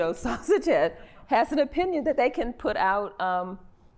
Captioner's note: laughter